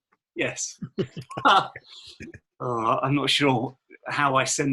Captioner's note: all laughing